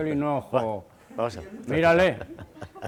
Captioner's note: laughs